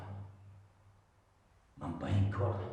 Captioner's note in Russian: none